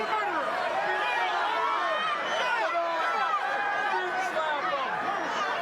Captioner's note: crowd chattering indistinctly